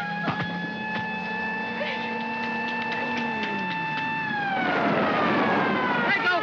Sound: Gerde yelps; thump; siren wails & jeep engine whines; tires screech

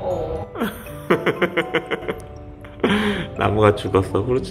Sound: only laughing

